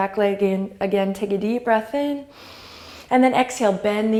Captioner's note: inhale